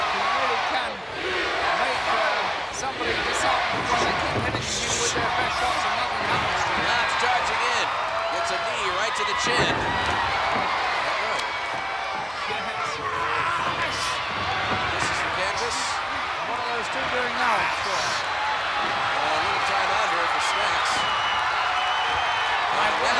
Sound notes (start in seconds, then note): 5.2 blows thudding; 10.2 body thudding; 17.9 wrestler bellowing